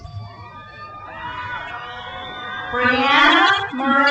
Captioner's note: crowd cheers